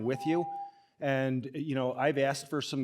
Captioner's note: ringing bell